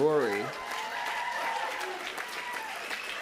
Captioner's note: applause